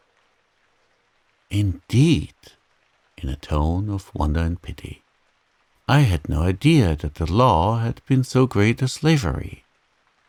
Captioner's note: in a tone of wonder and pity